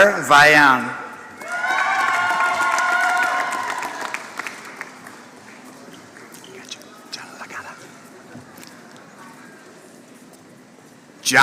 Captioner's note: applause